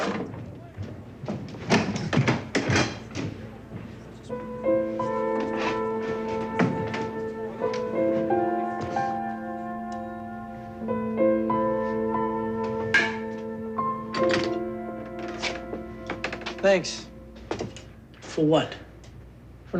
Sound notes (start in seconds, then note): 1.2 clipboard thuds; 3.7 melancholy piano music; 12.8 clinking